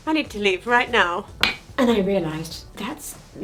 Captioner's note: mug clinks